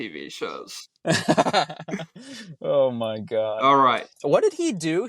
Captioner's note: laughs